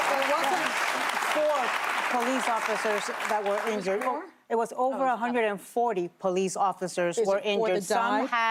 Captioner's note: applause